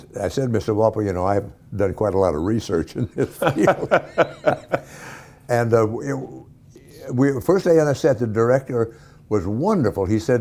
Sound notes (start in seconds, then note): 3.1 laughing